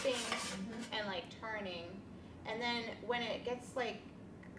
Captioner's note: utensil scrapes